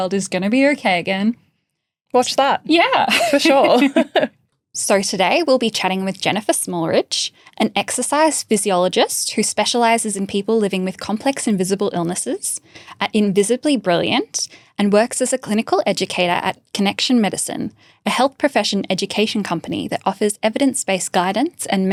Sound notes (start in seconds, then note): 3.0 laughing